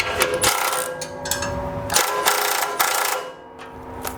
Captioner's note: tool drilling